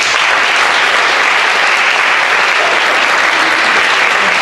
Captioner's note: audience applauds